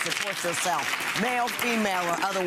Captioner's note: audience claps